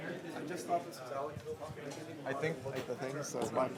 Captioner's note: chatter